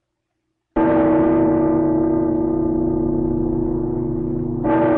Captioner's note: cathedral bell ringing